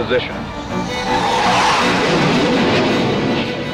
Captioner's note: plane roaring